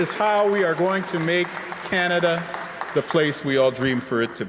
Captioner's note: applause